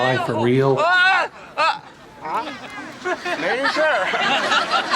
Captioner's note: non-english speech